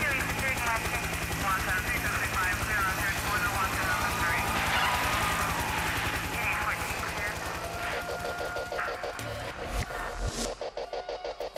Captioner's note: radio traffic